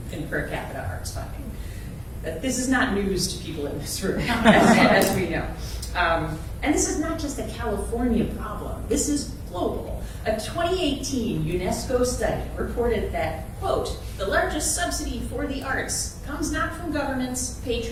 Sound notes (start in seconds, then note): 4.2 crowd laughter